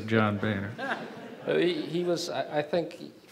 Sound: audience chuckles

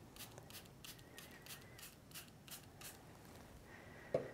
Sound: spraying

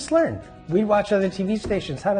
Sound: voiceover

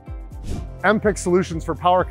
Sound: screen whooshing

